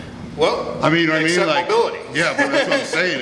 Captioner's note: laughs